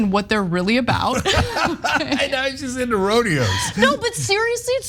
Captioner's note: laugh